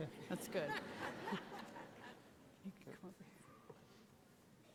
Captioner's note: audience laughing